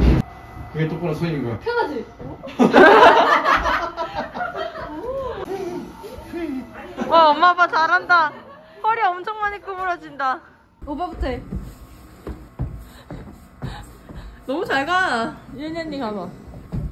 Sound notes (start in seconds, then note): 2.5 laughing